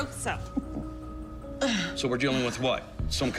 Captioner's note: gagging